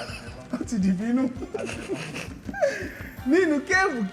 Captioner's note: laughs